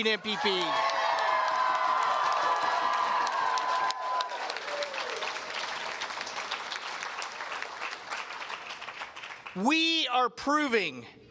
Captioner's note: cheers and Applause